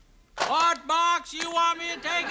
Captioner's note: yelling